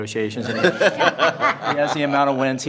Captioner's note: members laughing